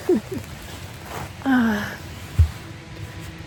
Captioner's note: laughs; sigh